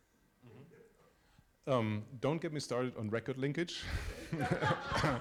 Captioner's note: laughter